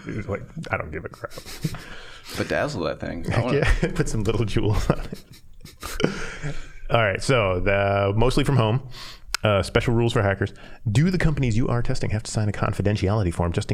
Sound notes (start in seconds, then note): 4.5 laughing; 5.2 all laughing